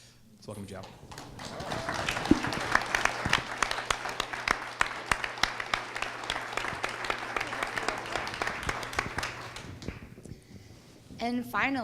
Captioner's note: applause